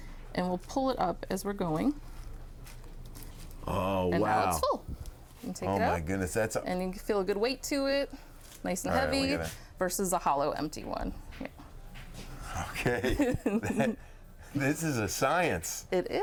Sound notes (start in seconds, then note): 12.7 chuckling